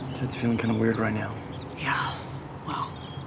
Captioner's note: sighs